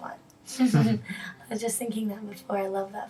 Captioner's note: laughs